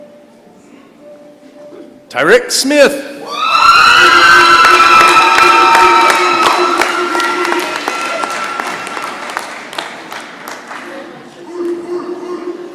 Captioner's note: cheering and applause